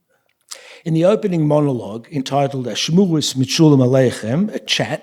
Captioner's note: speaking yiddish